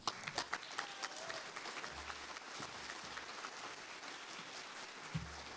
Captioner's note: applause